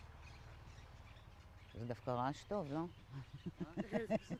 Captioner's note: laughing